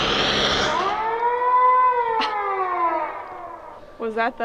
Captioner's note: siren blaring